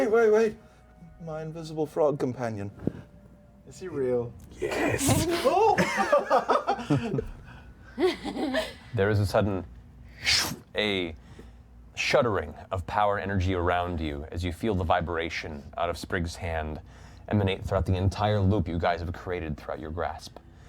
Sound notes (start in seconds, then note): 5.4 laughter; 10.2 sucking noise